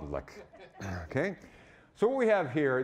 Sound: audience laughing

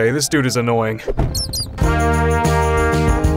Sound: bat squeaks; upbeat music

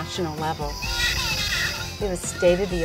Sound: dummy baby crying

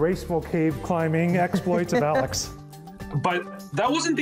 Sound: laughs

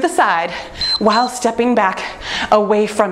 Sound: timer beeps

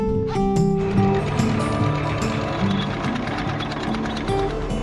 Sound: chain winding

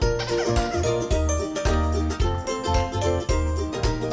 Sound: toy squeaking

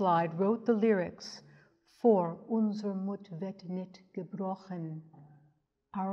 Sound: speaks in German

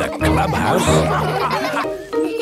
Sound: all laughing

